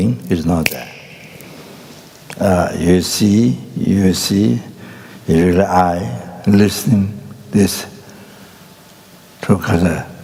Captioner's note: snaps his fingers